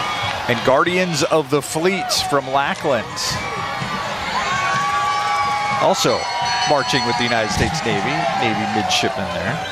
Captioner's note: cheering